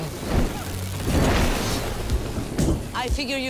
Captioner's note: electricity buzzing